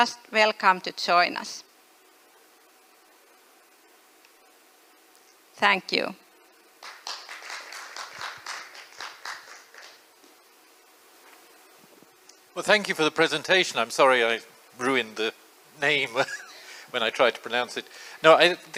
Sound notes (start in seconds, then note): 6.8 applause